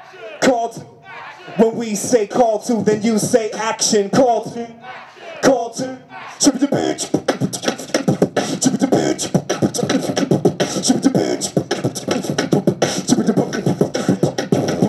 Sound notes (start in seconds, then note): 6.3 beatboxing